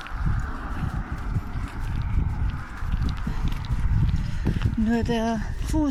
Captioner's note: wind